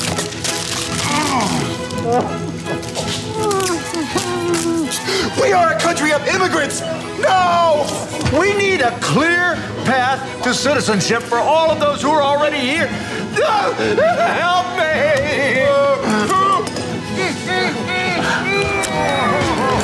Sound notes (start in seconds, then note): 0.0 paper rustling; 3.3 tape crackling; 18.6 scissors cutting